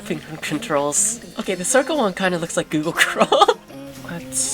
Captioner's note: chuckles